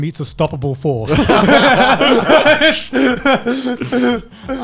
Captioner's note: laughing